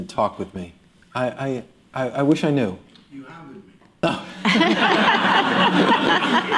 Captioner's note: laughter